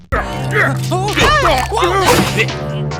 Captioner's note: grunt; whine; struggling